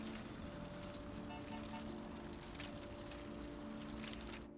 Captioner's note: distant horn honks